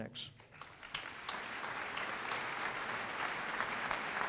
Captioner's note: applause